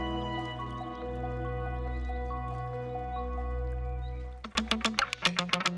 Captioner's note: gentle waves rustling; reflective music; upbeat music